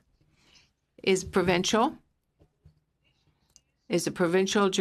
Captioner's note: speaking French